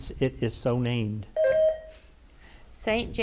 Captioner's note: bell dings